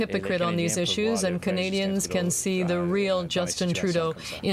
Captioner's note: speaking french